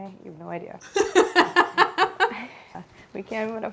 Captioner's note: laughing